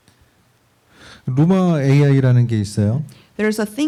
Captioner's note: speaking korean